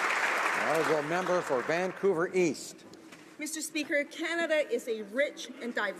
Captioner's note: applause